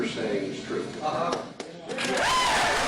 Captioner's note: applause